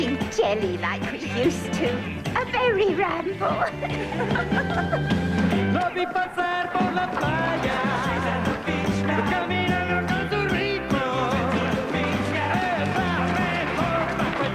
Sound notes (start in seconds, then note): 3.2 giggle